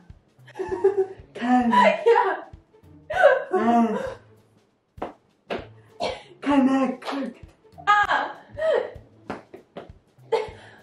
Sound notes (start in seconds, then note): 3.1 wheezing